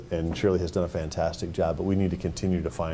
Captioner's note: none